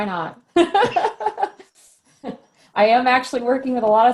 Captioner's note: laughs